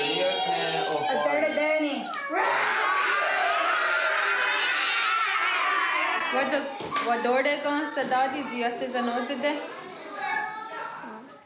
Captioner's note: speaking native language